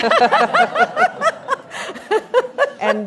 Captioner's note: laughing